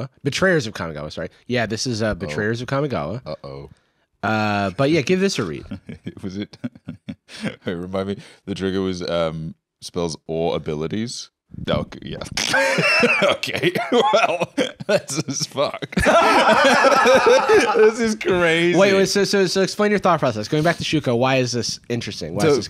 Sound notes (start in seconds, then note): 5.4 laughs; 12.6 laughs; 15.0 laughing; 16.6 both laughing